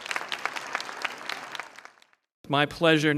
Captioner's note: applause